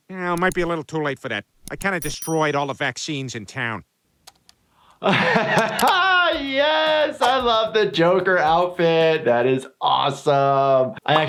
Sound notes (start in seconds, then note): 5.0 laughs